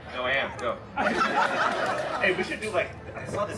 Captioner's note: guests laughing